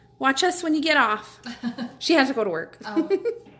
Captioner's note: laughing